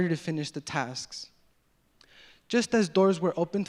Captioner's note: none